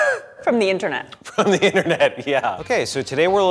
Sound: laughs

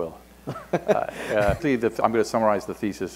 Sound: laughter

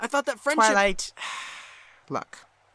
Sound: celestia sighs

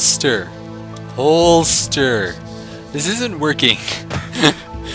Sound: laugh

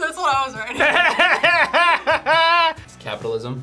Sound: both laugh

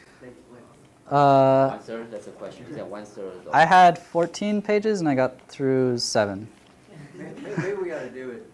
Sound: laughter

